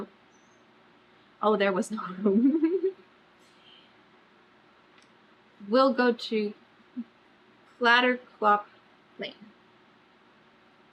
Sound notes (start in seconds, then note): 2.1 laughs